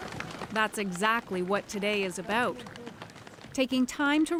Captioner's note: applause